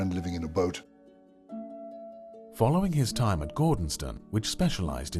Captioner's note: voiceover